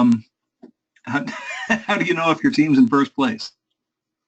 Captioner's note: laugh